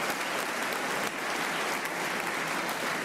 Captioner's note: applause